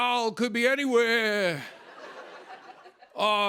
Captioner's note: laughter